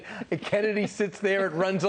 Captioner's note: laughter